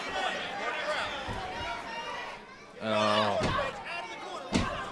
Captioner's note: crowd chatter